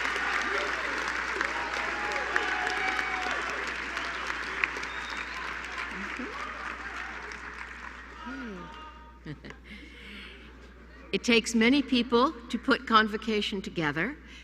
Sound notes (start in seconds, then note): 1.5 applause